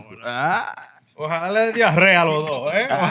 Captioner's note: speaking Spanish